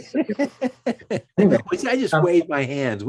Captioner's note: laughing